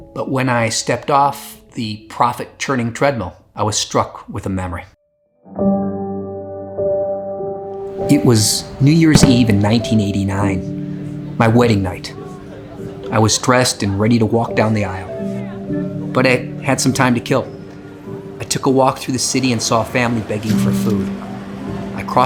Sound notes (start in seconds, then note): 5.6 sentimental music; 9.1 fireworks crack; 11.4 people chatting indistinctly